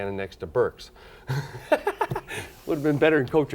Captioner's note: laughing